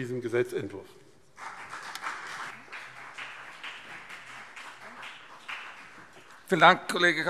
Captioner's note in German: Beifall BÜNDNIS 90/DIE GRÜNEN und CDU